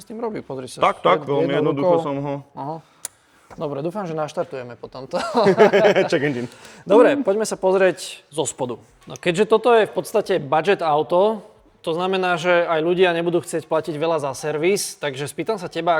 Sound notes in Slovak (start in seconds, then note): 5.1 smiech